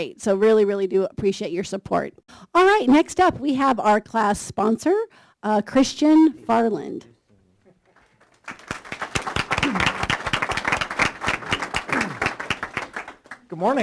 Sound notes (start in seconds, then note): 7.9 applause